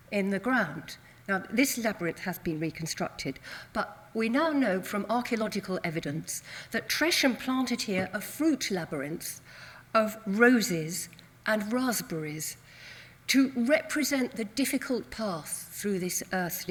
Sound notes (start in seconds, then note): none